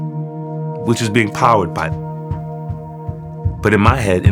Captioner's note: foot stomping